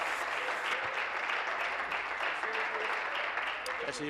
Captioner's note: applause